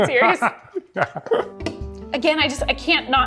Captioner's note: laughs